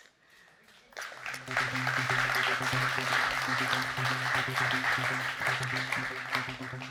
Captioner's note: audience applauding; tense music